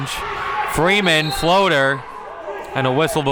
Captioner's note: whistle blows